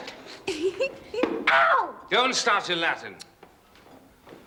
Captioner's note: Oswald sniggers – Bingo hits him